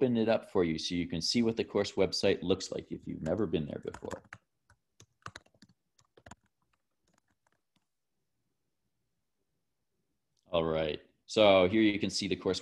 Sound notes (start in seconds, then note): 5.0 typing